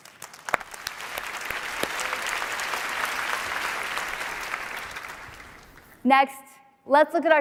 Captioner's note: applause